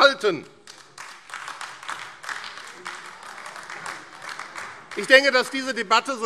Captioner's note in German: Beifall AfD